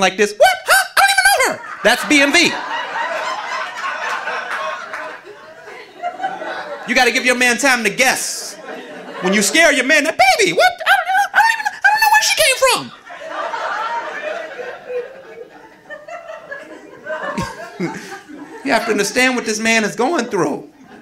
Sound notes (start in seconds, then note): 1.0 audience laughing; 13.6 audience laughing